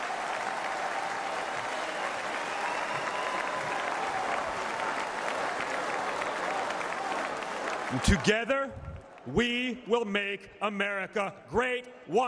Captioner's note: applause